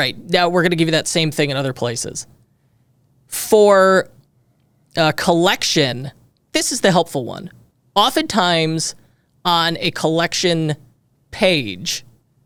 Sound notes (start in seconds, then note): none